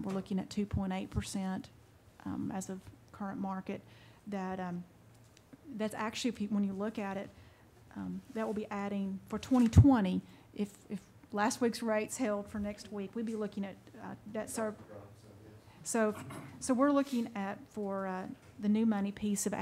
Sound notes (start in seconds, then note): 16.1 man murmuring